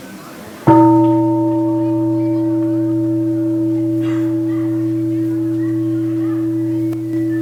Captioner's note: gong